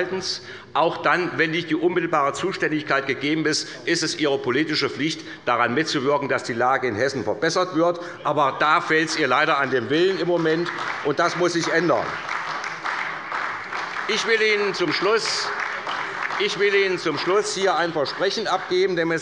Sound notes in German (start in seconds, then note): 12.2 Beifall bei der SPD